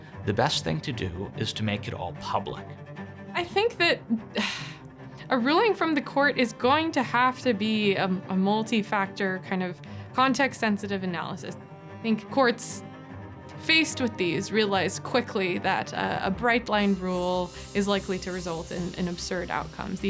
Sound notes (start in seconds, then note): 4.3 sighing